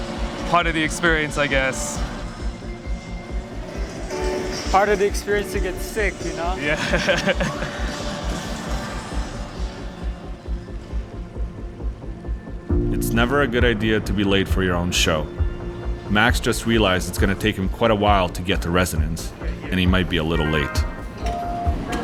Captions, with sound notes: Part of the experience, I guess. - Part of the experience to get sick, you know. - Yeah. (laughs) - It's never a good idea to be late for you own show. Max just realized it's gonna take him quite a while to get to Resonance, and he might be a little late.